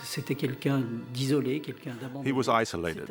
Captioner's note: speaks in foreign language